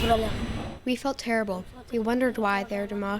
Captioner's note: through translator